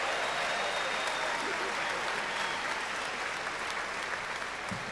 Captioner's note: cheers and applause